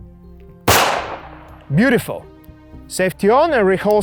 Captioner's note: gunfire pops